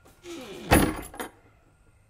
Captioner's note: door closed